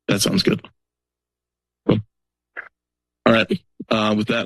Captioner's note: silence